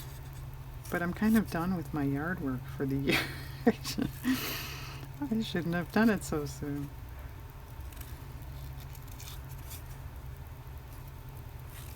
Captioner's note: laughs